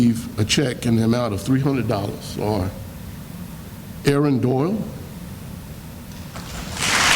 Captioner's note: sounds of applause